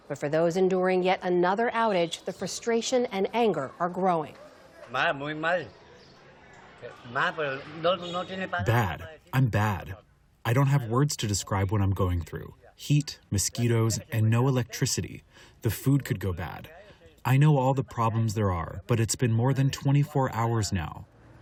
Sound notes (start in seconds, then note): 9.8 through translator